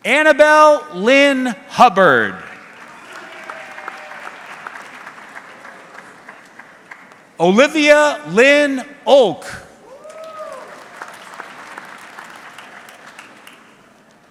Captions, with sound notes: Annabel Lynn Hubbard. (audience clapping) Olivia Lynn Oak. (audience clapping)